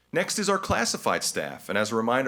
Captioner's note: none